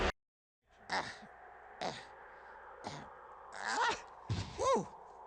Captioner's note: Gonzo grunting